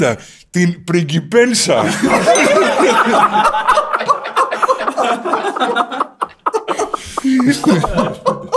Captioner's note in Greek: γέλια